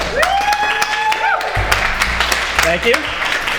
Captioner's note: audience cheers